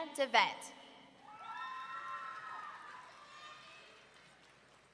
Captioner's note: audience cheering